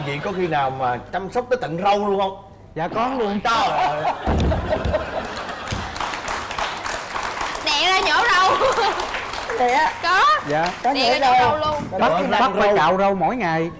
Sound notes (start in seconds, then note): 4.2 clapping + laughing